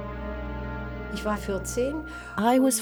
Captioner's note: speaks in foreign language